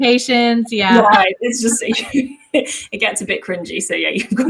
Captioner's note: giggles